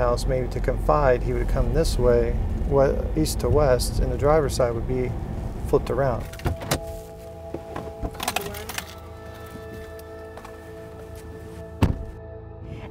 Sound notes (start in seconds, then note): 7.9 keys jingling; 9.8 anxious violin tones